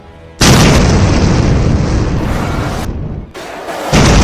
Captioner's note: kick + boom